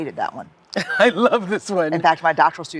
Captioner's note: laughs